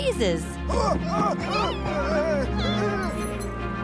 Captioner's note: shouting